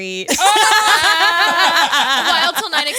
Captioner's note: all laughing